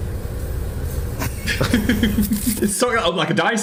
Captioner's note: Phil laughs